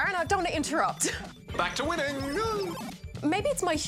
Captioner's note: laughs